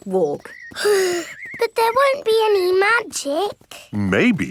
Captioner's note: sighs